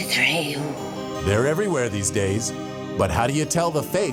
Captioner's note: woman speaking in foreign language